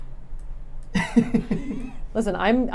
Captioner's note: laughing